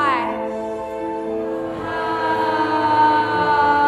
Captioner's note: all sigh